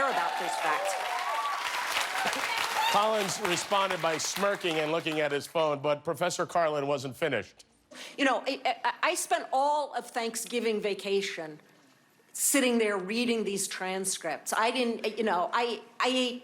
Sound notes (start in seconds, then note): 5.8 cheers and applause